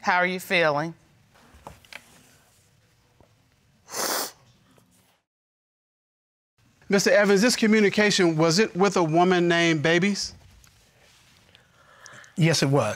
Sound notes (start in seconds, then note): 3.8 sniffles